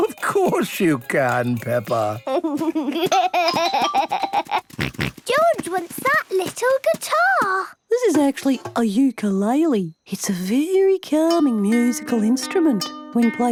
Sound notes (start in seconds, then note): 2.0 giggles, snorts